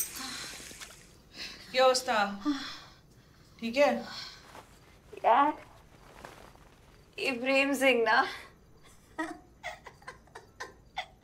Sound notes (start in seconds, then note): 8.9 giggling